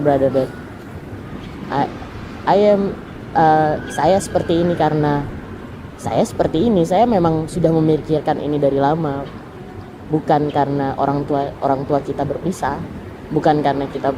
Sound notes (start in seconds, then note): 3.6 speaking in Indonesian - interpretation follows